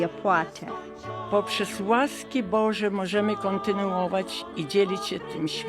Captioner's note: speaking in Polish